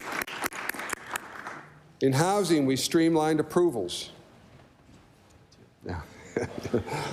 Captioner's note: applause